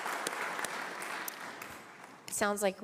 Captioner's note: applause